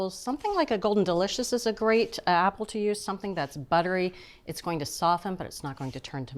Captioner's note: none